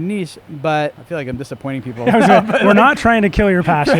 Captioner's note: laughs loudly